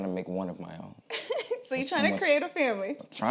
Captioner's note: laughs